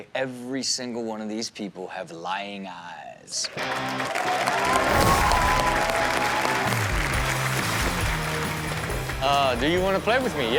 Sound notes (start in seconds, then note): 3.4 audience applaud and cheer; 3.5 upbeat music